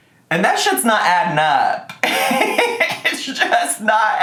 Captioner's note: laughing